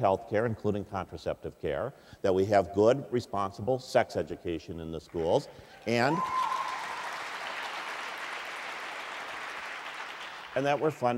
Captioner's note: cheers, applause